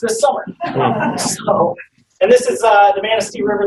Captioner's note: laughing